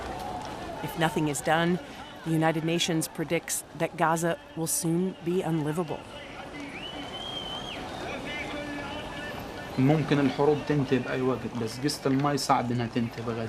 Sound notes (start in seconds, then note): 6.6 man continues speaking, people whistling